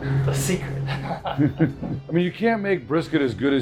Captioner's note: laughing